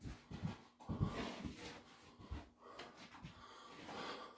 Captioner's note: panting